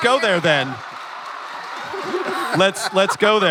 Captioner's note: crowd laughing & clapping